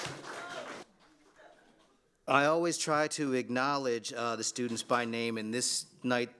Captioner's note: applause